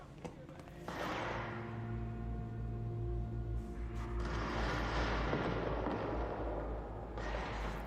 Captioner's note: distant gunfire